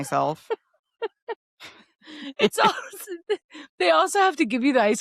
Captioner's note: laughing